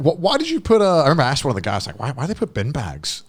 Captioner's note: speaking in foreign language